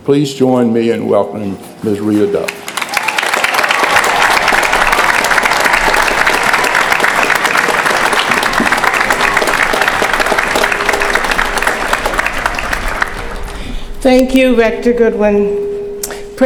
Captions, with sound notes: Please join me in welcoming Ms. Rita Dove. [APPLAUSE] Thank you, Rector Goodwin.